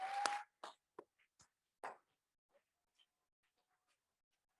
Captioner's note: audience cheers